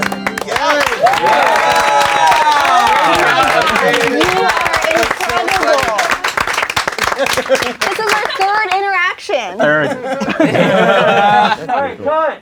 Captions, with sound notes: - You are incredible. (crowd applauding) This is our third interaction. - Third. (crowd laughing)